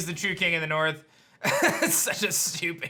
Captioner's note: chuckles